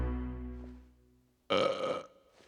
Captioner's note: burping